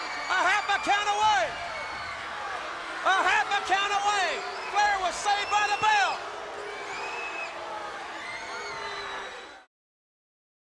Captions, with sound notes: A half a count away. A half a count away. Flair was saved by the bell. (audience yelling)